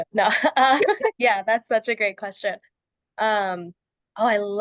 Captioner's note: laughs